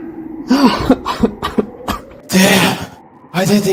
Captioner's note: exhausted cough